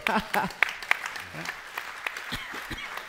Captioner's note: applause